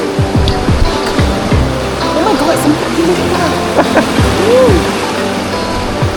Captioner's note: laugh